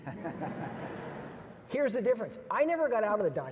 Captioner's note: audience laughs